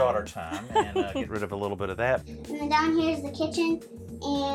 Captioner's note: chuckles